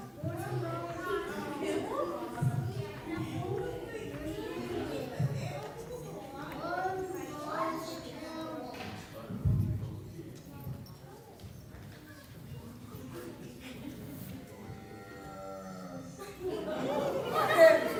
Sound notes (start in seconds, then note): 10.7 camel sound; 13.4 laughter